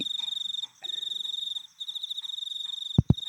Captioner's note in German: Zirpende Grillen